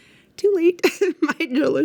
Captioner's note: laughs